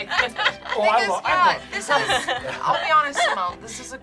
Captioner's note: group laughing